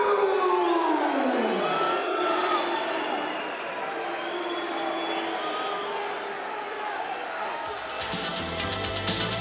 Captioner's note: crowd cheering